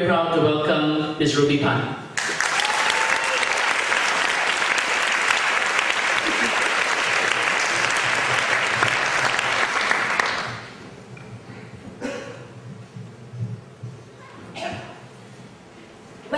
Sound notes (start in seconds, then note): 2.1 applause